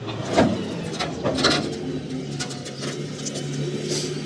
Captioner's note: trailer whirring